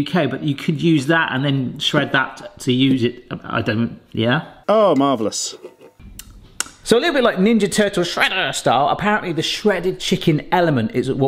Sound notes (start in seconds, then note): 6.1 smacks lips